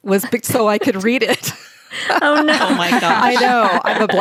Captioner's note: laughter